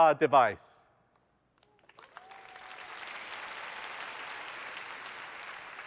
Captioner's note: applause